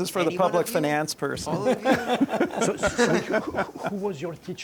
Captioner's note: laughs